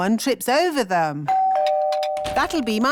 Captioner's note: doorbell rings